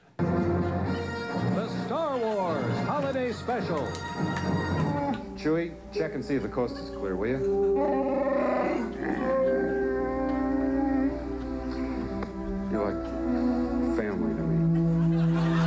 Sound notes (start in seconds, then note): 7.8 wookiee language; 14.7 audience laughing